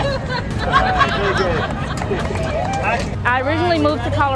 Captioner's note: laughter, clapping